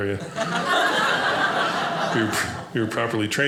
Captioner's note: audience laughing